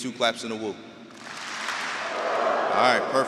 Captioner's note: audience clapping and wooing